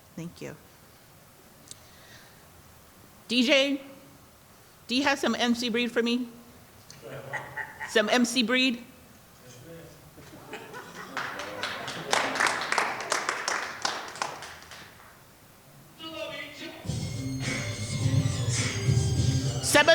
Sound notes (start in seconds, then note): 10.3 audience laughing and clapping; 16.8 upbeat music